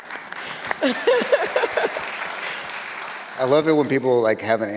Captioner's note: audience laughs; audience applauds